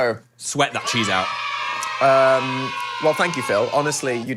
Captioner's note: children cheering